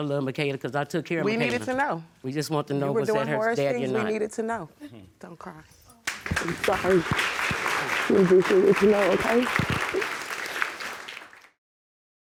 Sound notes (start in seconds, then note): 6.0 audience applauding